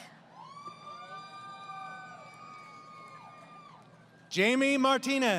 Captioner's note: crowd Cheering